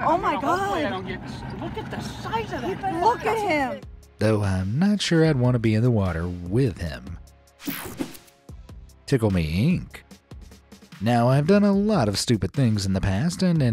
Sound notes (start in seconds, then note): 7.6 screen wipe whooshes